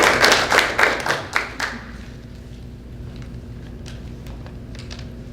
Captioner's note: applause